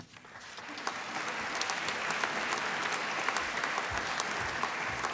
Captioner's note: applause